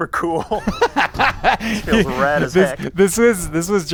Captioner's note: laughter